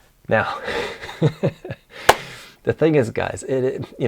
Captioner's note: laughs